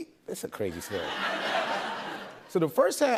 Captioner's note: laughter